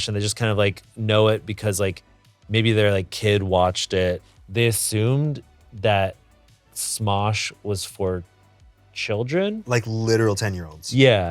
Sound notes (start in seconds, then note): none